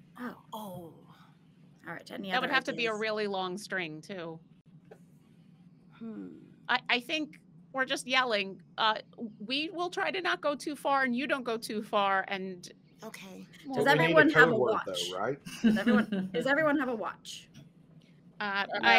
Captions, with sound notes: - "Oh." - "That would have to be a really long string too. I think we're just yelling. We will try to not go too far, and you don't go too far and-" - "Okay." - "Does everyone have a watch? (group laughing) Does everyone have a watch?"